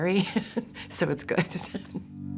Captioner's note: chuckles